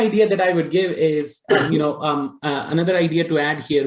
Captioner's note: coughs